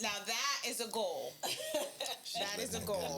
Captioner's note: laughing